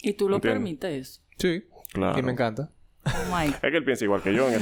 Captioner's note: laughs